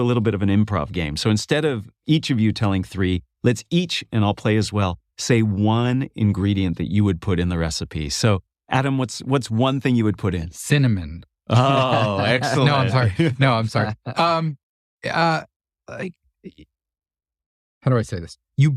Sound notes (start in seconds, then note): 11.5 laugh